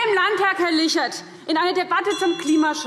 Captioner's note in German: Zurufe – Glockenzeichen